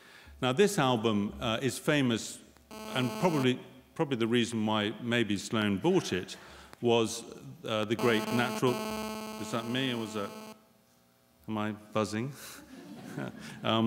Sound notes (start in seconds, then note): 7.9 buzzing sound